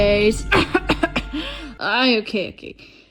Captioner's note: Coughs from Covid-19